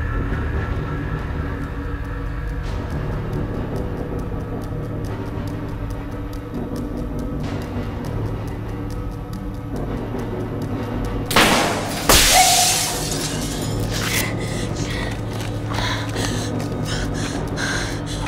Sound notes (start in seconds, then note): 0.4 dramatic music; 11.3 thudding; 11.3 shattering; 13.7 heavy breathing